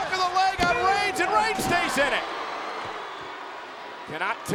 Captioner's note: crowd boos